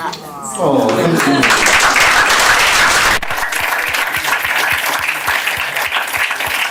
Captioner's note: applause